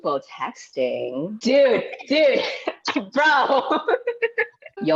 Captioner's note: laughs